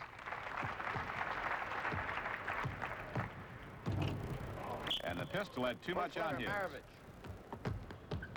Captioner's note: applause